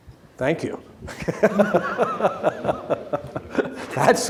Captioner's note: laughs